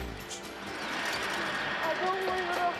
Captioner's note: stretcher screeching